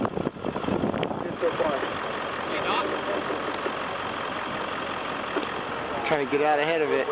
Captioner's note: sounds of wind